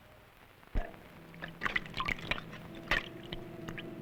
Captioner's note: splashing